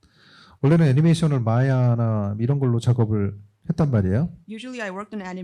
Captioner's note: speaking korean